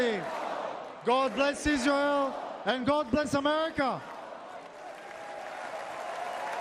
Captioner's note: chanting "bring them home"